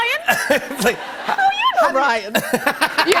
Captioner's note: laughter